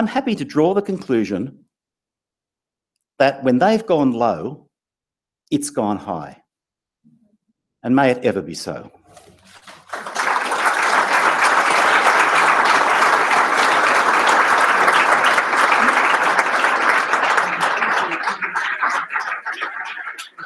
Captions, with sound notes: draw the conclusion that when they've gone low, it's gone high. And may it ever be so. >> [APPLAUSE]